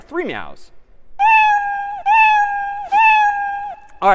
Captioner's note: meowing